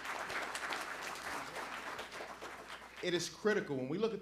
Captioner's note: applause